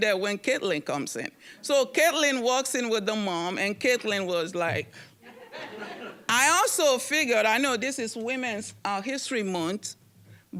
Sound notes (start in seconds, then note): 5.3 audience chuckling